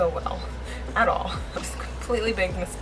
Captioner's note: laughs